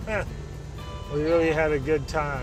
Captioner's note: laughs